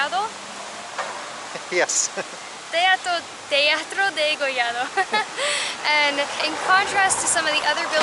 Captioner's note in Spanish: Risas